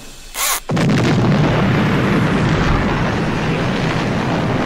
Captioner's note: bomb exploding